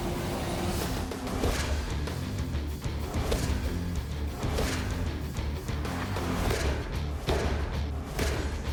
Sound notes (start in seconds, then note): 1.5 rock music; 1.6 blow impacts